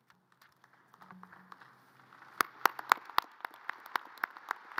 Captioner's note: audience applause